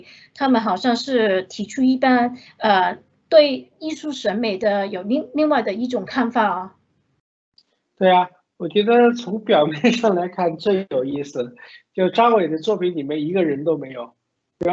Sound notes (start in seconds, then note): 8.4 Mandarin